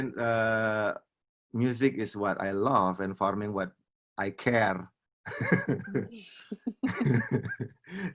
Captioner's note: laughs